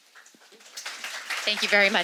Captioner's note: audience applauding